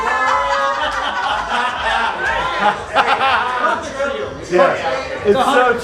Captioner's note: participants laugh and cheer